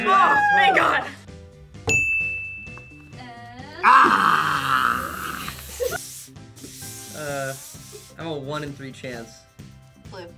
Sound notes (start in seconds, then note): 1.8 bell rings